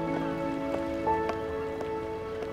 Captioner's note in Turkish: Yaklaşan ayak sesi